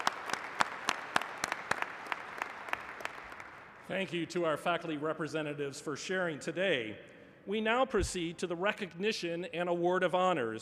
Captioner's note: applause